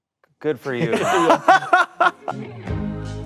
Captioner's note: group laughing